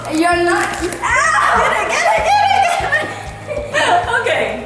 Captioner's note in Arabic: يضحكان